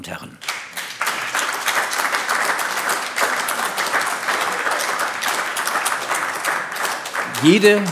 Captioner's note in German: Beifall AfD